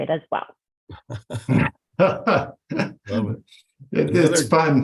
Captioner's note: laughing